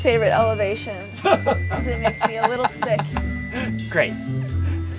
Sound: laughter

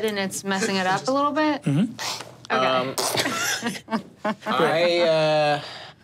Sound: laughs

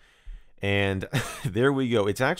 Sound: chuckling

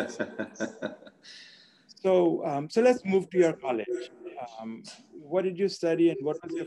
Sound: laugh

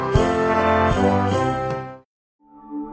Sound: sound effects

